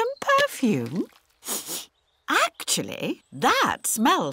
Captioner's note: sniffs